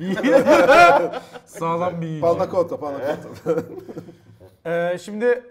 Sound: laugh

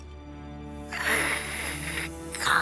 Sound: hissing

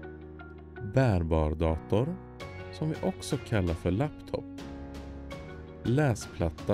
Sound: different words in Swedish

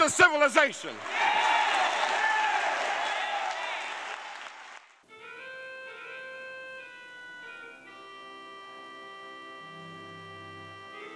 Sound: applause

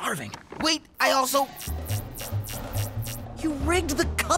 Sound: beeping

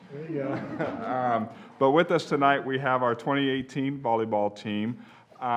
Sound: laughter

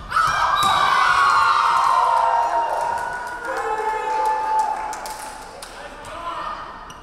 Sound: crowd cheering; referee whistling

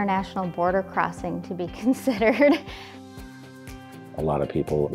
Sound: laughs

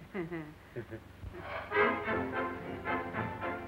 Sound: both laughing

